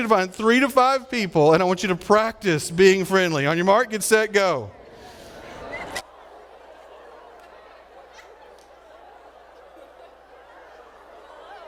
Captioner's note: audience laughing and talking